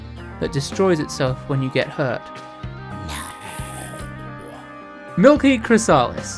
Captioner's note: booo